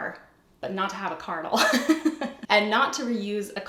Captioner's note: laughs